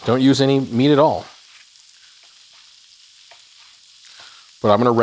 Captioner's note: oil sizzling